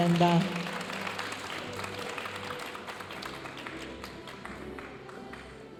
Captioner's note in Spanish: aplausos de la audiencia